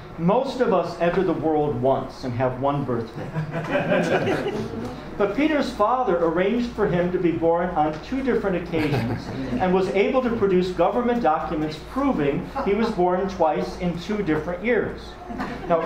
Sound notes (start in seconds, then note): 3.3 audience laughs